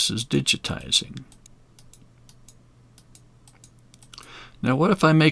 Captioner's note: mouse clicking